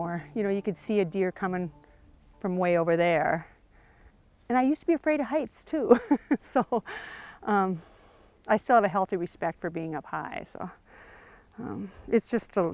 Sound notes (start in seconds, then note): 5.9 chuckles